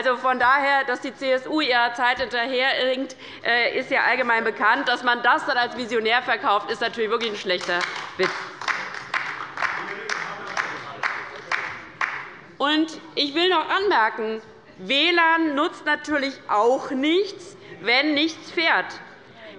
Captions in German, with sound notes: Dass die CSU der Zeit hinterherhinkt, ist ja allgemein bekannt. Aber dass man das dann als „visionär“ verkauft, ist wirklich ein schlechter Witz. [Beifall bei der LINKEN - Zuruf von der CDU] Dann will ich auch noch Folgendes anmerken. WLAN nutzt natürlich auch nichts, wenn nichts fährt.